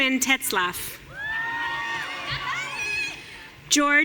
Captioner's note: audience cheering